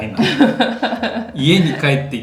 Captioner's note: laughs